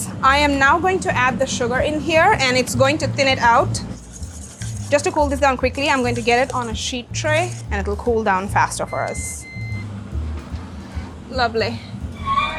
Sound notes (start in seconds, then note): 8.8 oven beeping